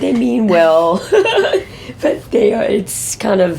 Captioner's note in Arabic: يضحك